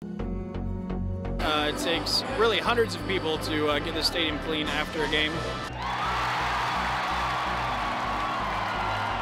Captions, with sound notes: (upbeat trance music) - It takes, really, hundreds of people to get this stadium clean after a game. (crowd cheering)